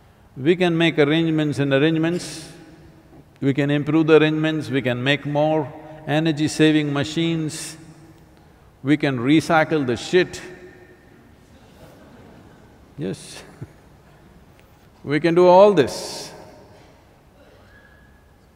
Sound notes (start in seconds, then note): 11.4 laughter; 11.5 laughs